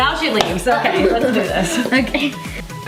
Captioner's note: laughing